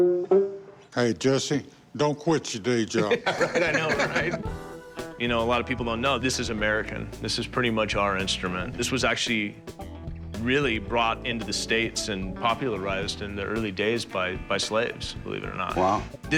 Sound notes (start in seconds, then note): 2.9 chuckling